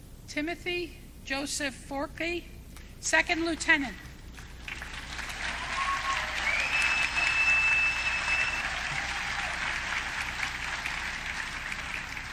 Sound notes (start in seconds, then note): 4.7 audience cheering